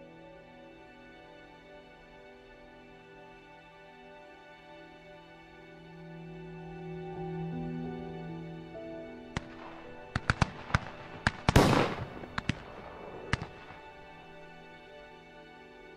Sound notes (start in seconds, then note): 9.4 guns firing; 13.1 gentle music